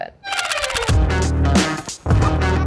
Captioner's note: upbeat music; camera clicking